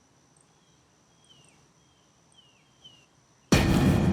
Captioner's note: birds chirping; dramatic music